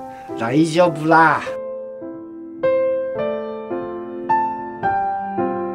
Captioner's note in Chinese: 日語